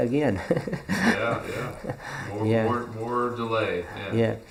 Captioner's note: laughs